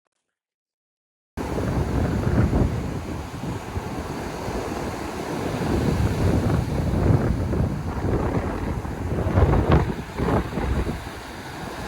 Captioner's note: noise of the sea